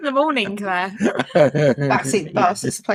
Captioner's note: laughing